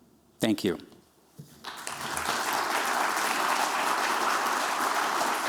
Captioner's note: applause